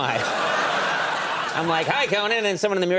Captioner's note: audience laughing